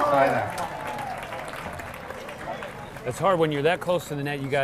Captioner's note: audience applauding